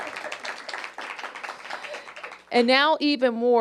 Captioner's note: applause